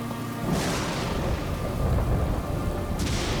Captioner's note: thunder crashing